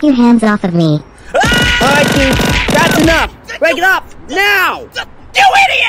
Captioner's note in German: schreit und grunzt